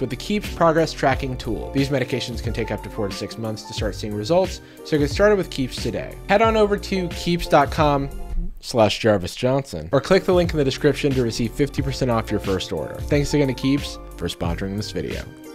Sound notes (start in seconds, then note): none